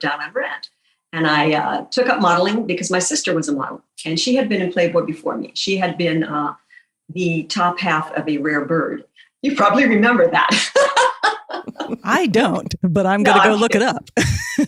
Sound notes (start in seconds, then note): 10.6 laughing; 14.2 chuckles